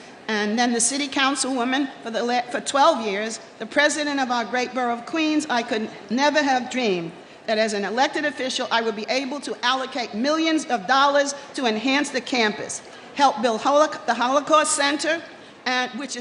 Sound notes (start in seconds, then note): none